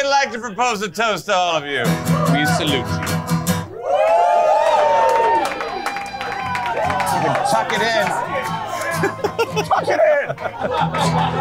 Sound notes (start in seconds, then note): 3.6 cheering and clapping; 8.9 laughing